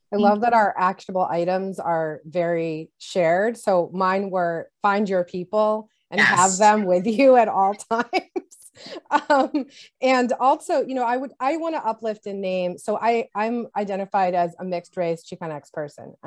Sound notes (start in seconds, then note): 8.1 laughs